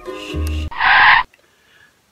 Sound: sound of car brakes

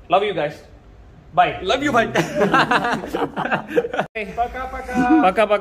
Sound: laughs

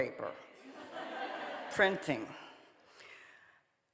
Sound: audience laughing

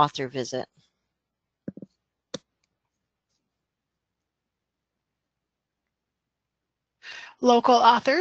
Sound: silence

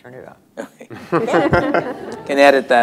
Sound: laughter

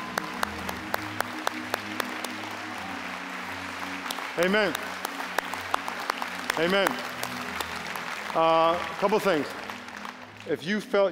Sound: applause

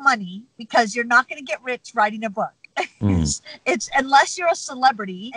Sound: laughs

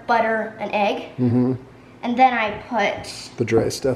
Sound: murmurs

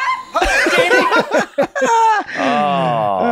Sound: everyone laughs

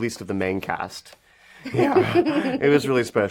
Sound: they laugh

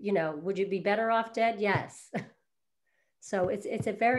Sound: chuckles

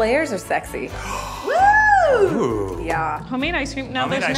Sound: whooping

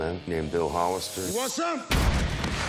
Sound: gunshot

